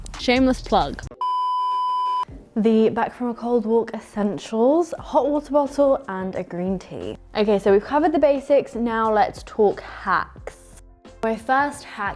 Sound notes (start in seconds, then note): 1.1 beep